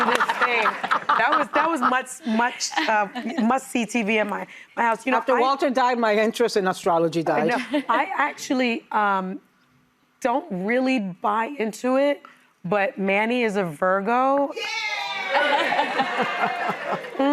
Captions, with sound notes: That was much, much, much CTVMI. I was, you know, after Walter died, - Oh my, I'm interested in astrology, guys. - I actually don't really buy into it, but Manny is a Virgo. (audience cheering)